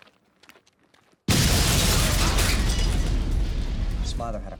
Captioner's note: explosion booms